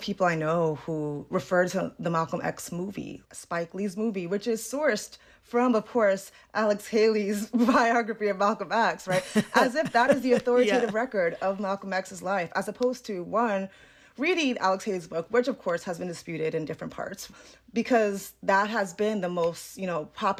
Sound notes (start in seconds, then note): 9.0 laughter